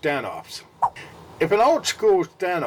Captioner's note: swipe Sound